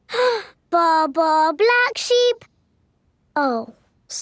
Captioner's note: inhales